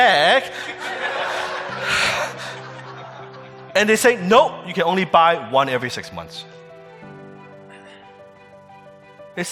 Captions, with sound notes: (audience laughing) And they say, "No, you can only buy one every six months."